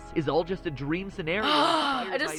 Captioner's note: gasping